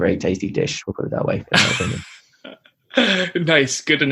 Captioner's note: laughs